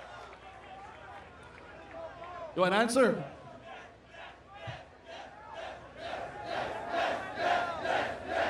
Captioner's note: cheering